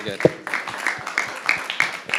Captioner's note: audience applauding